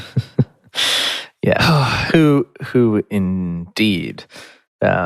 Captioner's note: laughs